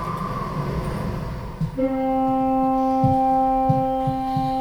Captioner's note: horn